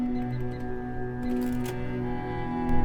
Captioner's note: cash Register